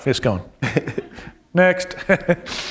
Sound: laughter

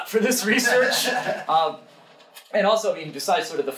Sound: audience laughing

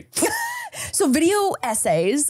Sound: laughing

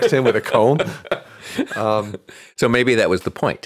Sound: laughing

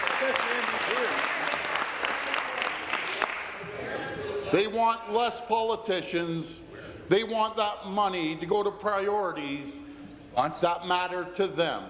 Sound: applause

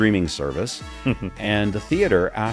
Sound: participant chuckles

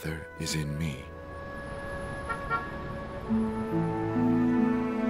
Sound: traffic sounds

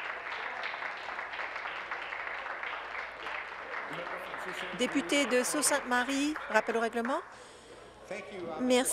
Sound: applause

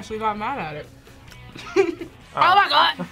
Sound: laughs

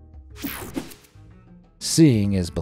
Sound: screen swooshing

